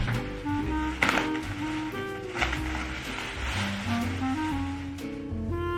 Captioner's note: plastic wrap rustling; gentle music; gentle music continues